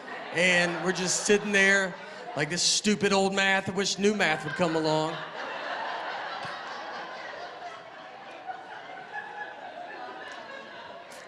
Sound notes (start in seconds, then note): 5.3 laughter